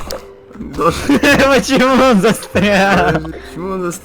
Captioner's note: laughing